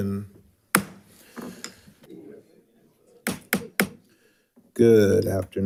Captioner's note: banging gravel on table